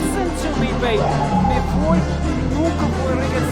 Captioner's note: speaking Spanish